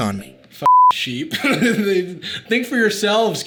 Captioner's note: beep; laughs